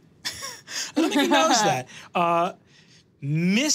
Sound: chuckles

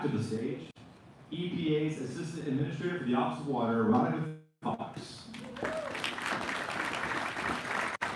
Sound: applause

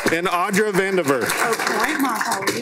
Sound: applause

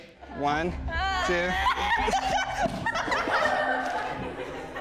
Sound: dance group laughing

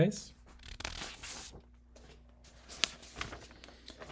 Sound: paper rustling

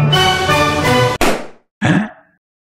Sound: balloon pops

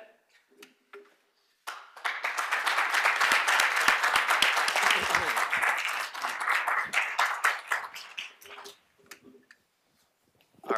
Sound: applause

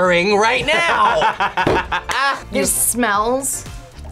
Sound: laughs

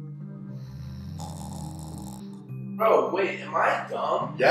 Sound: snoring

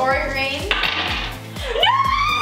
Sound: clanking

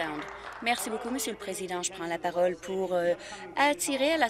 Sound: applause

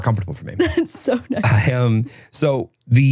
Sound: laughs

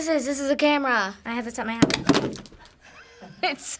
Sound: camera clunks; Finebros chuckles

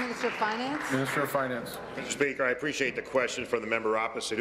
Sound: applause

